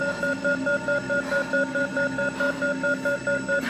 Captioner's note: panting